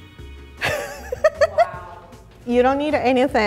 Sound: laughter

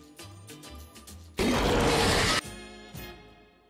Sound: upbeat instrumental music; alien roaring

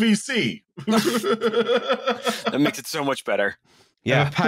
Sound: laughter

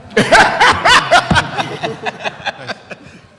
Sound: laughing

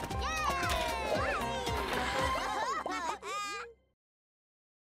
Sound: laughing

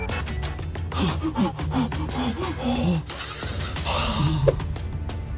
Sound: heavy Breathing

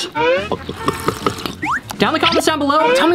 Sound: soda glugging

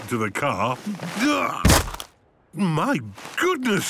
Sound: thuds

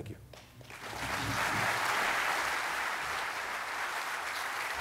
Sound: audience claps

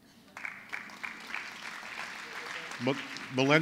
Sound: applause

